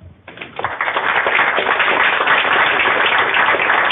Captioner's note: applause